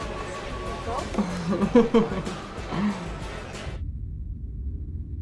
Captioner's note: chuckle